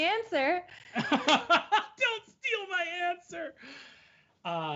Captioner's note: laughs